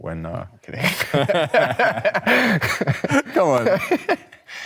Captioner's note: both chuckling